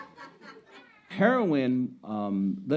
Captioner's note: laughing